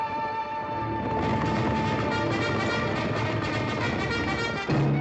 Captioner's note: cavalry bugle; hooves pounding